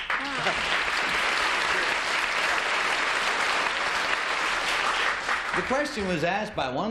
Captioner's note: applause